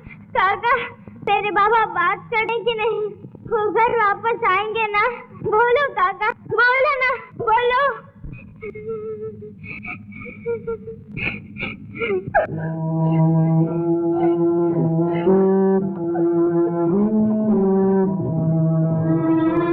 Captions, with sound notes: Uncle does my father speak? He will come back soon isn't it? Please tell me. (Sobbing)